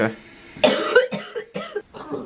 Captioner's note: coughing